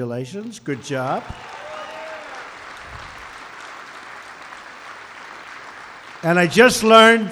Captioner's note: applause